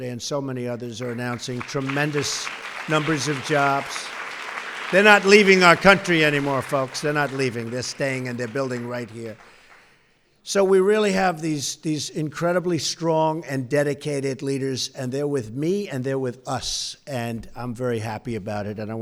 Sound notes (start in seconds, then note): 3.9 applause